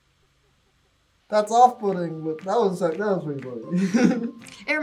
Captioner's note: chuckles